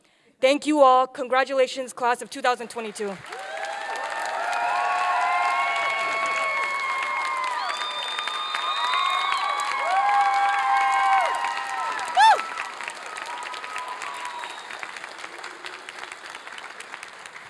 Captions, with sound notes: Thank you all. Congratulations, class of 2022. (applause and cheering)